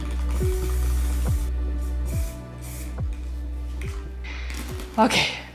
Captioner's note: spray cane hissing